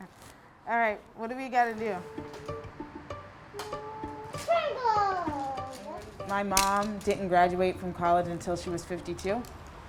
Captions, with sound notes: All right, what do we gotta to do? [baby mumbling] My mom didn't graduate from college until she was 52.